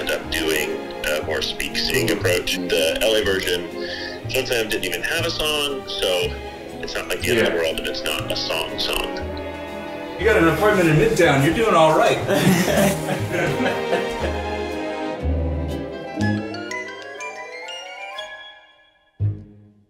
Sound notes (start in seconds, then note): 12.2 all laughing; 13.2 peaceful music; 15.2 upbeat music